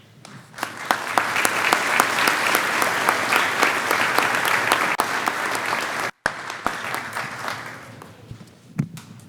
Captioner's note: clapping